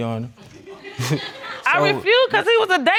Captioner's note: audience laughing